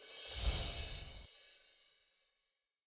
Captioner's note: chimes ring